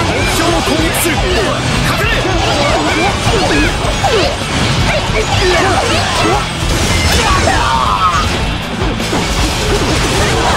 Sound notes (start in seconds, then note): 7.0 KO Scream